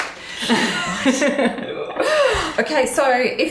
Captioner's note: both laughing